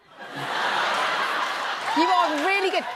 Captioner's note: laughter